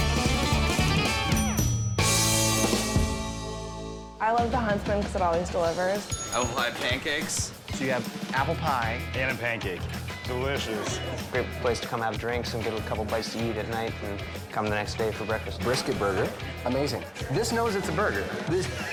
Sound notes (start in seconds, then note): 0.1 jaunty rock and roll music; 6.0 bell dinging